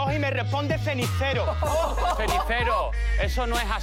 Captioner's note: laughter